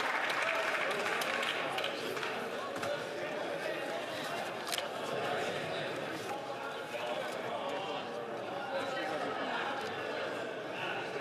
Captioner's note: some Applause